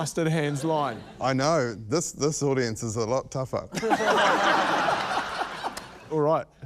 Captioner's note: laughter